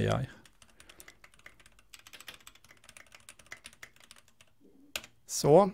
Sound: typing

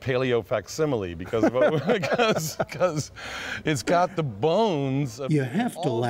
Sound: laughter

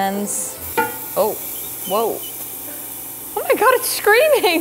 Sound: mushroooms squeaking

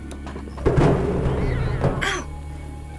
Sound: garbage cans clattering; cat yowling

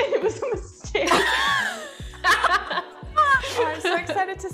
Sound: hearty laughing

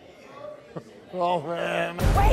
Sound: laughs

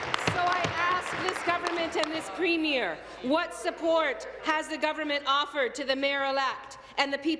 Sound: applause

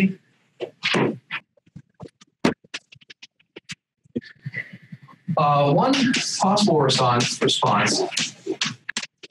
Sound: erasing chalkboard

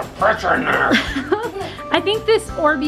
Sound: laughing

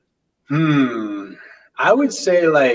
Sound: sighs

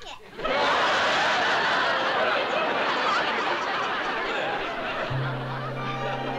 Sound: laughter

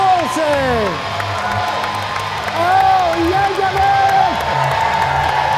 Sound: audience cheering

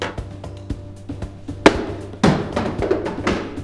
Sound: punching sound

